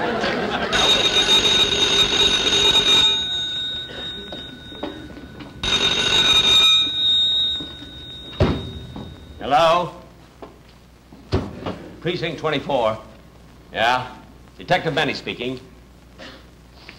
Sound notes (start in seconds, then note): 0.6 phone Ringing Loudly; 5.5 phone Ringing Loudly